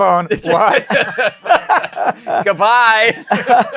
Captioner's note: laughter